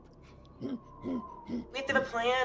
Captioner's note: Pivm grunts repeatedly